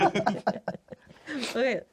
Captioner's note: laughing